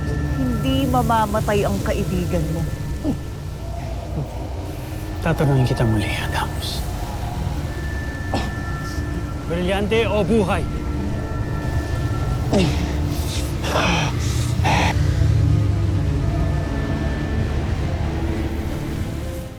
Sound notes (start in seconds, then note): 3.8 ominous music playing; 12.4 grunting